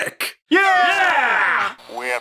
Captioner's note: everyone shouts